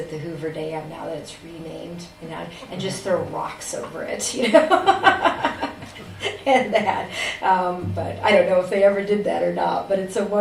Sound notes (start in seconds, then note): 3.6 laughs